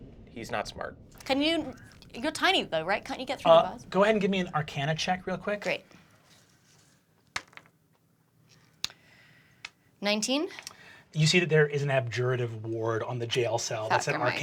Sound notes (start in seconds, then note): 7.2 dice bouncing